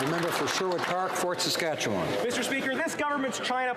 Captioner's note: applause